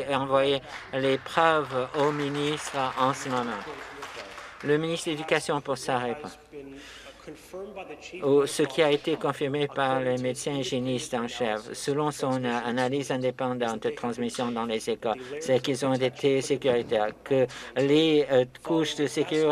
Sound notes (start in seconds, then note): 5.1 some Applause